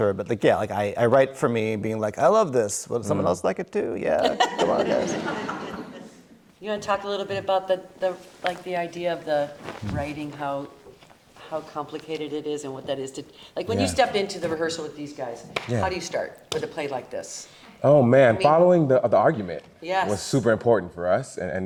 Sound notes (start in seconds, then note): 4.2 all laughing